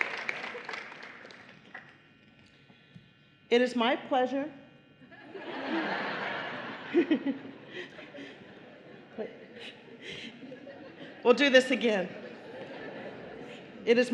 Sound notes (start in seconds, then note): 0.0 applause; 5.1 laughter